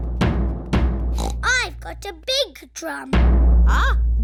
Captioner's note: snorts